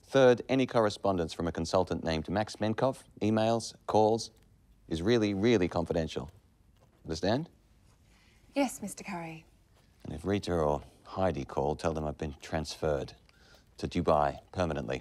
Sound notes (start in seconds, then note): none